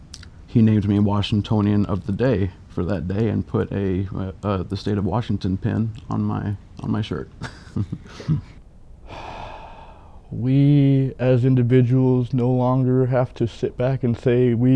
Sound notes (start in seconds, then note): 7.3 chuckling; 9.0 heavy sighing